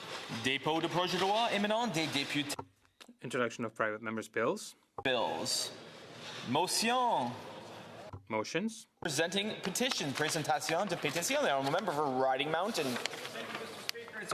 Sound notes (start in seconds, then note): 6.8 speaking French